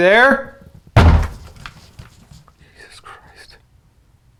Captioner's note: door bangs